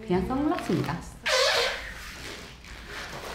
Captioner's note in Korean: 끼이익